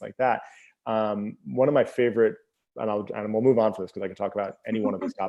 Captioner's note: laughing